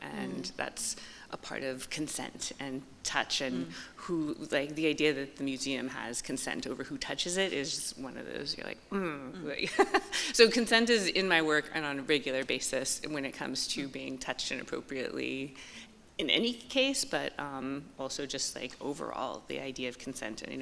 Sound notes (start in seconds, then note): 9.6 chuckles